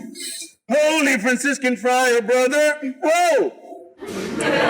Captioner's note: sing songy